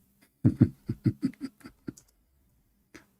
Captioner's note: Ketawa